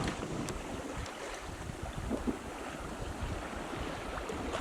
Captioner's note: waves bubbling